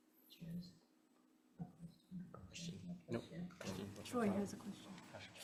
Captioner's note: committee members chattering